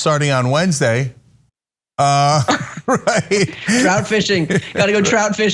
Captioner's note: laugh